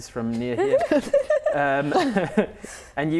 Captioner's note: laughing